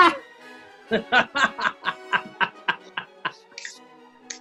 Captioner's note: cackling; guffawing